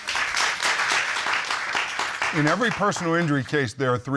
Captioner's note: audience clapping